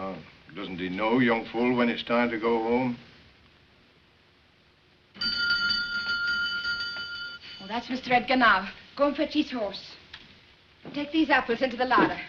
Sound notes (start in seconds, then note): 5.2 bell rings